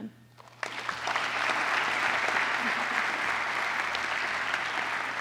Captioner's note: applause